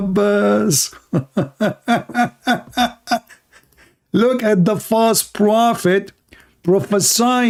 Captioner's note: Ketawa